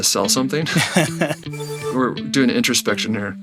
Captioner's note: laughs